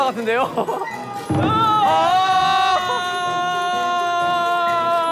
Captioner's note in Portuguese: Chorando